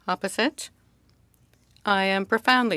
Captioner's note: speaking French